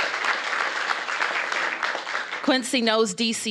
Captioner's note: applause